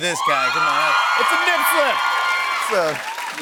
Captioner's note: cheers and applause